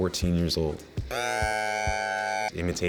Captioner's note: beat boxing